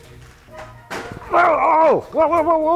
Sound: bang

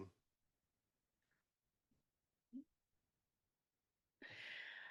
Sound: silence

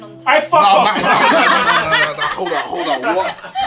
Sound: group laughing

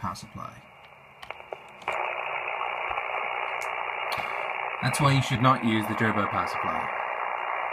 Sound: loud static noise

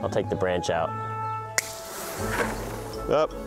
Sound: branch snaps

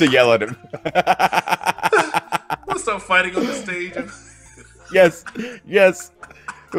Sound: laugh

